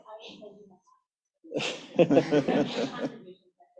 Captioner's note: laughter